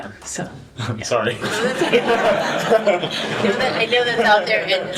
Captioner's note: laughter